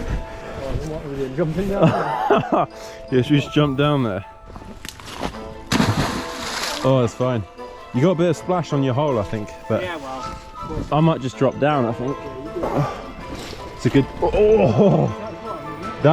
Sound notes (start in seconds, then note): 5.6 splash